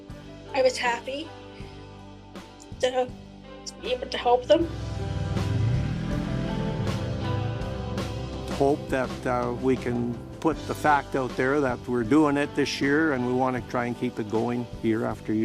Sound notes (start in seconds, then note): 4.6 engine roaring